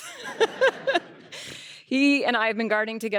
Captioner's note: laughter